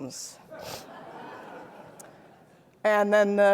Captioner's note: audience laughing